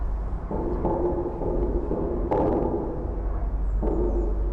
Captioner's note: sound waves resonating